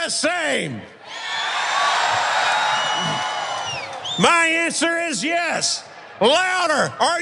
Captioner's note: applause